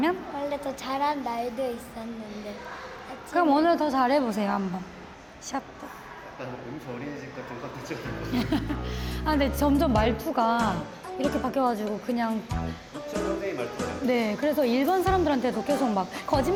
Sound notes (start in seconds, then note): 8.1 laughs